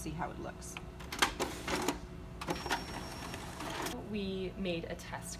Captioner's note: copier noise